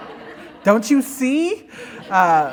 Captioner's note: laughter